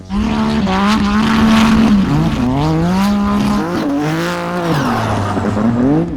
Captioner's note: tires screeching and engine thundering